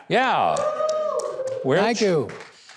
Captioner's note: audience applauding